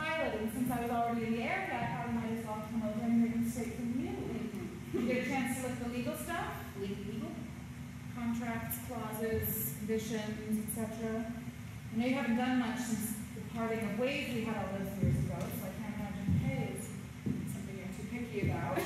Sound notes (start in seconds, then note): 4.3 awkward chuckle